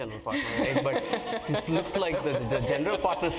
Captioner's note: laugh